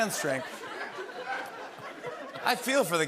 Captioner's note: laughter